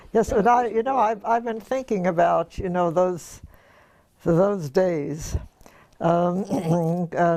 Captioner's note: cough